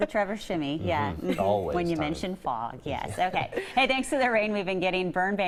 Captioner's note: laughter